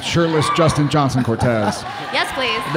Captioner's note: audience cheering